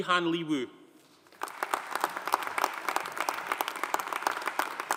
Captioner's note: audience applauding